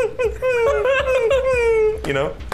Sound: imitating dog whimpers; laughing; imitating dog whimpers

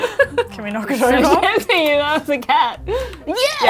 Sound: laughs

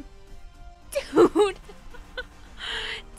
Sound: laughing

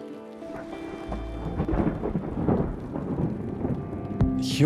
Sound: thundering

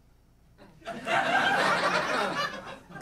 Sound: audience laughing

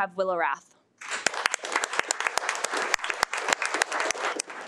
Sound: audience applauding

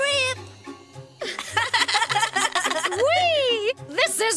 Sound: they laugh

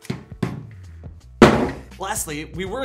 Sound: magazine bangs on table

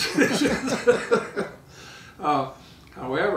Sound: laughing

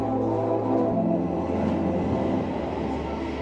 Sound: subway cart swooshes

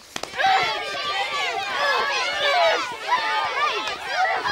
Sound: clamoring

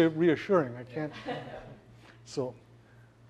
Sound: laugh

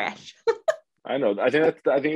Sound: laughing

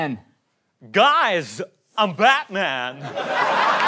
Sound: goofy voice

